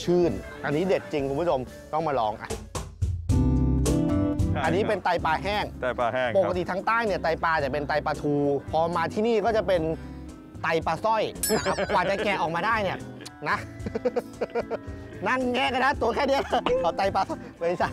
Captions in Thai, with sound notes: อันนี้เด็ดจริงคุณผู้ชม ต้องมาลอง - อันนี้เป็นไตปลาแห้ง - ไตปลาแห้ง ปกติทางใต้ ไตปลานี่เป็นไตปลาทู พอมาที่นี่ก็จะเป็น...ไตปลาสร้อย - [เสียงหัวเราะ] - กว่าจะแกะออกมาได้นี่...นะ นั่งแงะกันนะตัวแค่นี้...ไม่ใช่